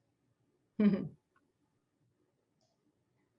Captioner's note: chuckles